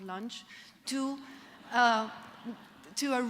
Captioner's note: laughter